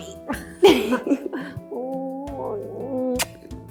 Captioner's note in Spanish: risas